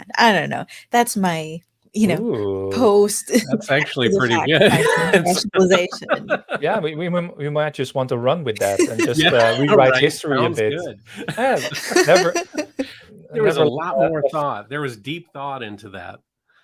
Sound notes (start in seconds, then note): 5.9 laughing; 12.0 laughs